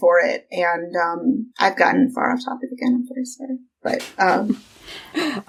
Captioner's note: laughs